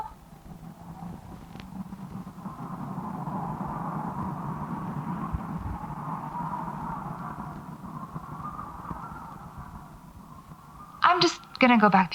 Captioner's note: the wind whistles long and low